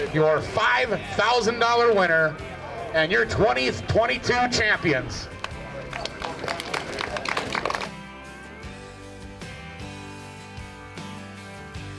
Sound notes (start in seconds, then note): 5.3 crowd clapping